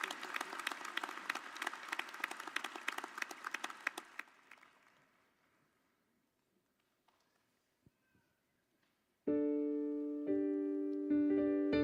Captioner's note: applause